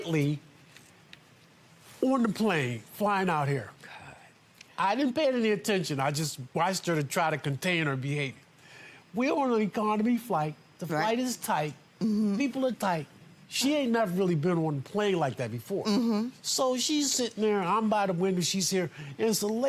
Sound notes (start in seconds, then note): none